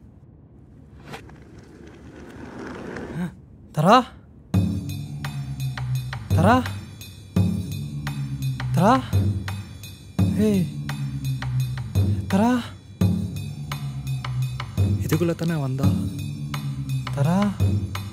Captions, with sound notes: [gasps] Tara? [intense music] Tara...? Tara...? Hey! Tara...? She went inside this only right? Tara...?